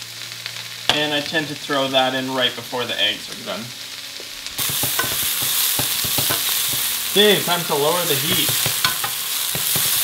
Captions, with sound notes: And I tend to throw that in right before the eggs are done. (sizzle) K, time to lower the heat.